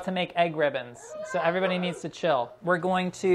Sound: children whining

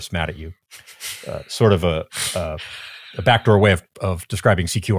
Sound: chuckling

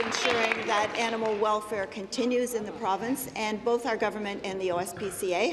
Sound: applause

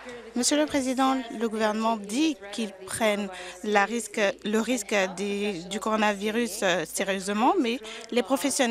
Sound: applause

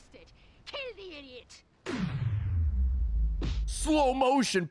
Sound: slo-mo noise

